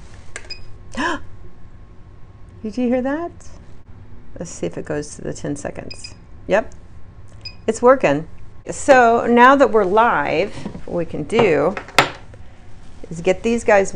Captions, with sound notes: (gasps) Did you hear that? Let's see if it goes to the 10 seconds. (quiet beeps) Yep. (beep) It's working. So, now that we're live, we can do is get these guys wet.